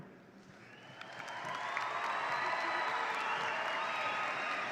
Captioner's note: audience cheering